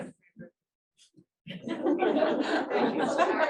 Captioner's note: laughter